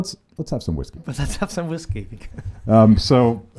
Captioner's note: laughs